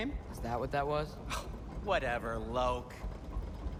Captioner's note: scoff